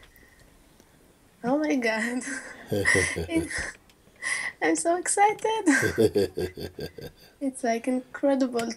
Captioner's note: laughs